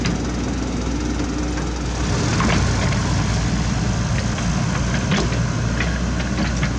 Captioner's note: traffic Rumble